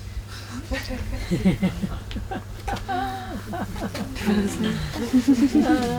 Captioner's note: soft laughter